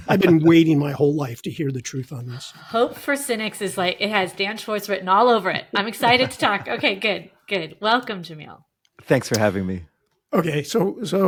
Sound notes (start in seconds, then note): 5.7 laughing